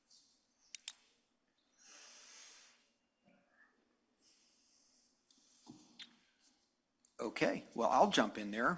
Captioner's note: no audible response